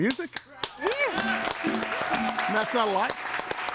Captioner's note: audience cheering and applauding